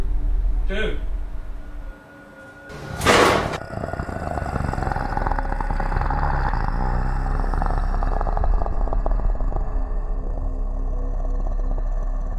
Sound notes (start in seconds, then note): 3.4 zombie growling